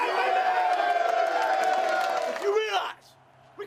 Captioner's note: chatter, cheering